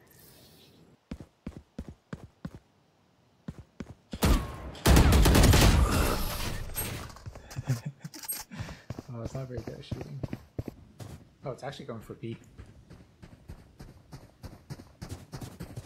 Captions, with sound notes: [laughter] well it’s not very good at shooting. Oh it’s actually going for B.